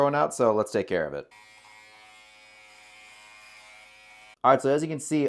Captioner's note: trimmer buzzing